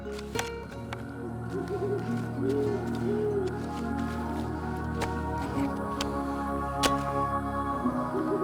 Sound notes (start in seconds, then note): 0.9 owl hooting; 2.0 insects chirping